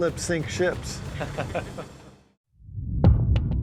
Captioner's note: officers chuckling